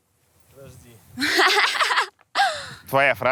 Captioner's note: laughs